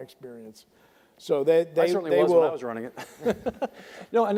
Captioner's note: laughs